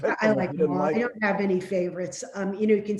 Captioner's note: chuckles